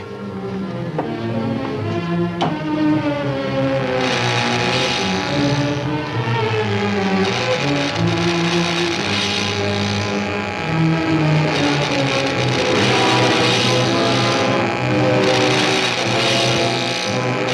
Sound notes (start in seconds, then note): 0.2 suspenseful music; 3.2 electricity buzzes; 3.8 suspenseful music